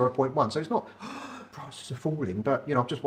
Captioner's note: gasping